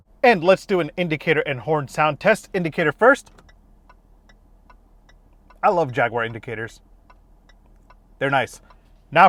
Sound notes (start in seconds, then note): 3.2 soft clicking